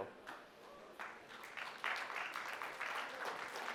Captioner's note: applause